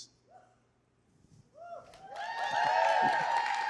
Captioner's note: applause